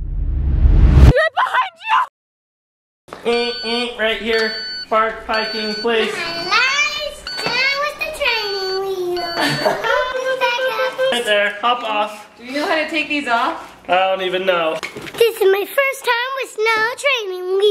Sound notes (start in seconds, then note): 9.2 laughing